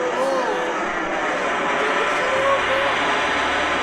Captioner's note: loud roaring